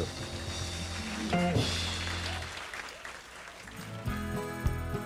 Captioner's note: audience applauding